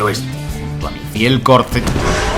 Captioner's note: thud